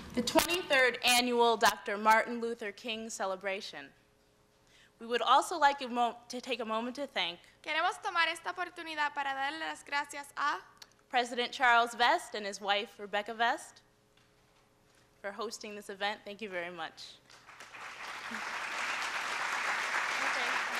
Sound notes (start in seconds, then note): 8.9 speaking in spanish; 17.2 applause